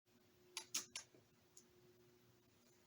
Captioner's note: lip smacking